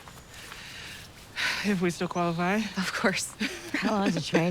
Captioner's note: sighs